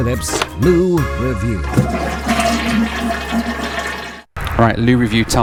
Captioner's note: loo flushes